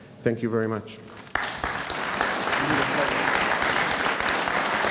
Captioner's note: audience applauds